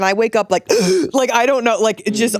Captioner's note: gasping